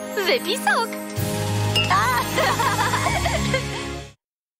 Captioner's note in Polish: śmieją się